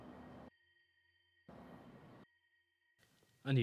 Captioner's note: silence